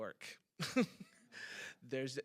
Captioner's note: chuckles